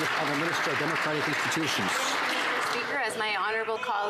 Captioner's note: some Applause